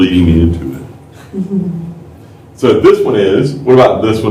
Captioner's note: laughter